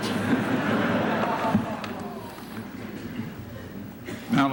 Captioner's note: laughter